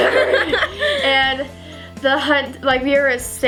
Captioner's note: both laugh